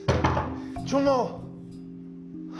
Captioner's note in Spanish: Toques en la puerta